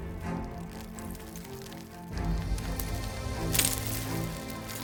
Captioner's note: rocks clattering